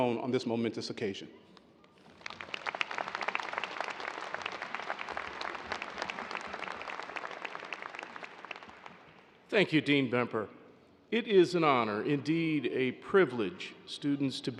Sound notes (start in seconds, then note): 1.8 applause